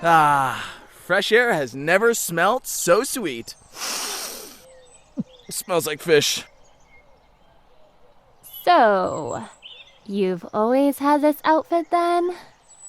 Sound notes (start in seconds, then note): 3.7 sniffs